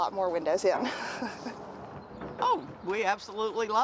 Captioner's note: chuckling